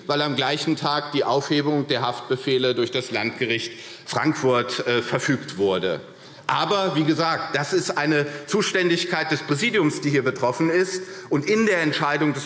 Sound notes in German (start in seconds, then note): none